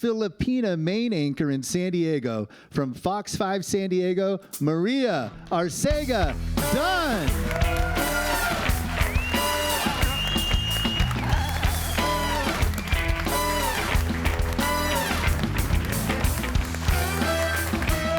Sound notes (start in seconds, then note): 7.2 upbeat jazz music; 8.6 audience cheering and applauding